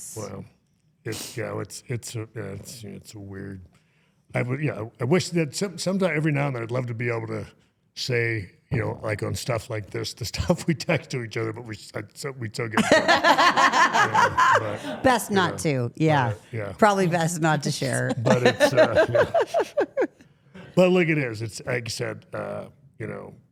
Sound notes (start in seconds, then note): 12.8 interviewer laughing; 17.8 laughs